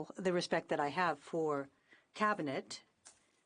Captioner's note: speaking in French